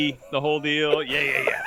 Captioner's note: laughs